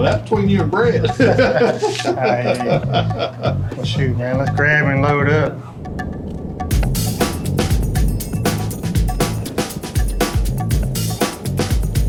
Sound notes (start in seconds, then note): 0.0 laughs; 6.8 engine roaring